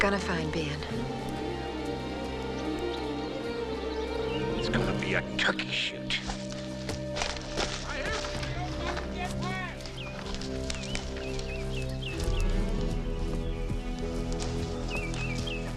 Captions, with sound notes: They're gonna find Ben. - It's gonna be a turkey shoot. (frantic music softens) (men yelling) (steady sinister music)